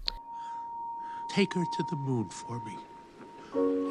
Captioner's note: bing bong